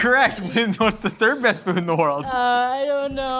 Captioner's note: laughing